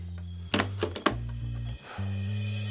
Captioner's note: phone clicks; Dick sighs